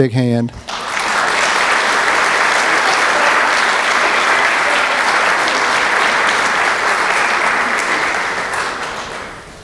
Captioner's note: applause